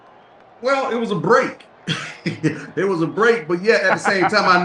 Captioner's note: laughs